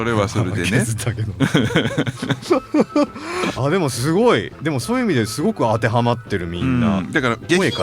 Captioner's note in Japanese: 笑い